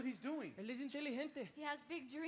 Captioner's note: speaks in Spanish